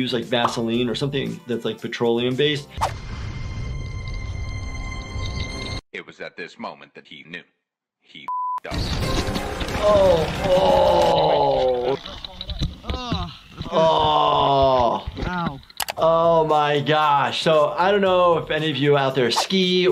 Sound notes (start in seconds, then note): 3.7 intense music building; 8.2 beep